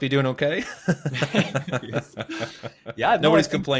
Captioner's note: laughter